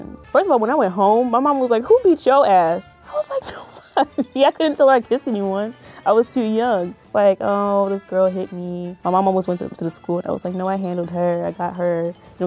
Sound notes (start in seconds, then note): 3.1 laughing